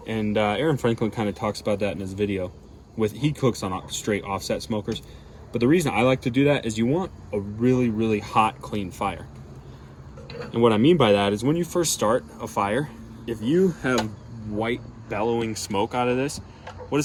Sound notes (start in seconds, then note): none